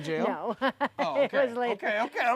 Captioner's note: laughs